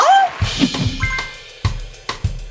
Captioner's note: upbeat percussion music; crowd claps